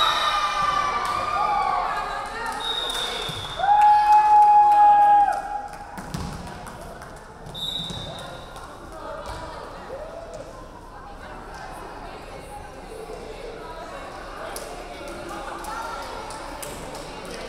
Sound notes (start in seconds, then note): 0.0 crowd cheering; 0.2 referee whistling; 4.0 crowd cheering; 7.5 referee whistling; 8.6 crowd chattering